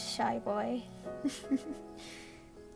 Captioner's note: giggles